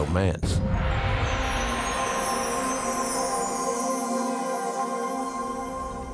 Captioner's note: mysterious music; bells chiming